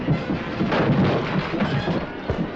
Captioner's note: crash